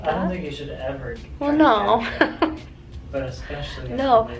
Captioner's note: chuckles